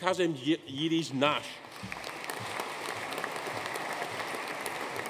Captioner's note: audience applauding